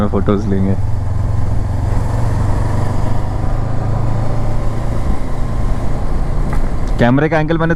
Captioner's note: engine thrum